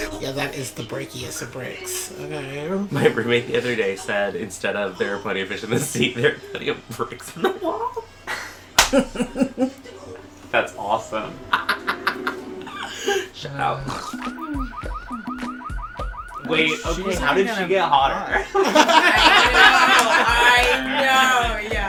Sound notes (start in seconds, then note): 13.7 laughs